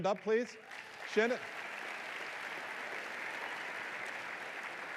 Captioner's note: applause